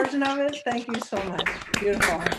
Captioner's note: claps; claps hands